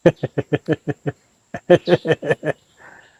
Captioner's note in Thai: เสียงหัวเราะ